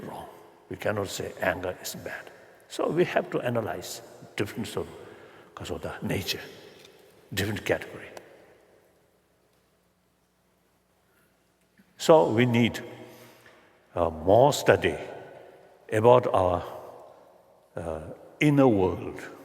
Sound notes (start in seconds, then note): none